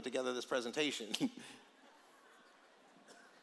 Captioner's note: laughter